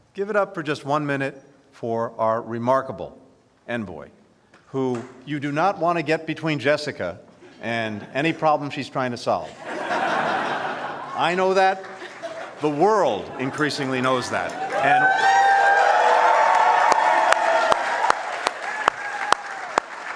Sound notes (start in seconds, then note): 9.4 laughter; 16.5 cheers and applause